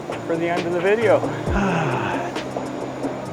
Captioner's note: sighs; train approaches